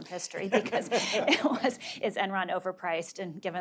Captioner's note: laugh